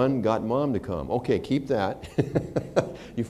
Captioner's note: laughter